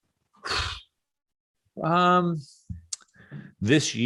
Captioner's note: sighs